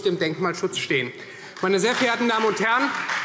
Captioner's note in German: Beifall Freie Demokraten